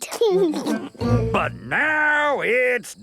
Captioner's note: laughing